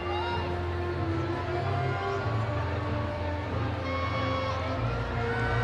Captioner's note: audience cheering